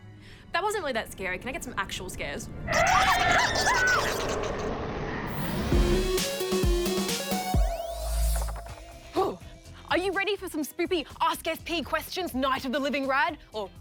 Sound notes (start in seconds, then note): 2.6 shrieks